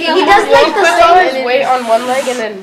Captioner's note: chatter